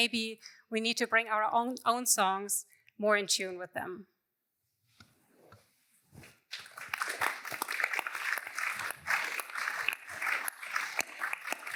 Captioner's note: applause